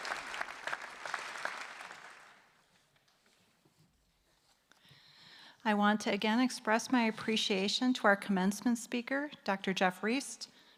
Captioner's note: applause